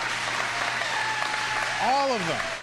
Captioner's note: cheers and applause